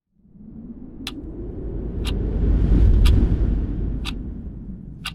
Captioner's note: ticking